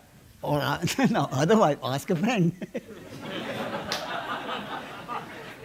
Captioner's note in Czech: smích